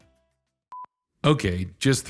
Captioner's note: beeping